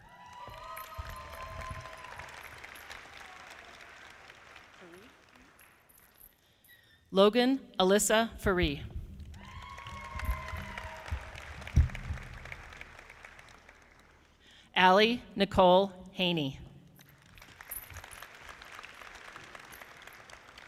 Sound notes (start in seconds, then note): 0.0 audience applauding; 9.2 audience applauding; 17.1 audience clapping